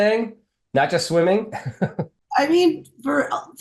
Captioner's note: chuckles